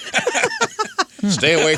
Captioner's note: laughing